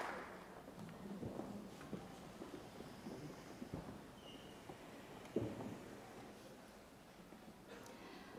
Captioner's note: applause